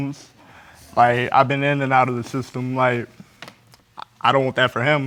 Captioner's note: tearfully